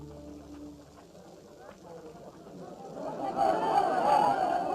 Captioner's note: indistinct chattering